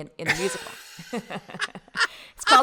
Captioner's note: laughing loudly